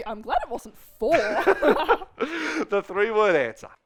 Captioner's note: both laughing